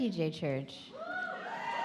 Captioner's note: audience cheer